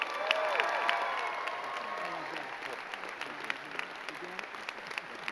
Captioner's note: crowd cheering and clapping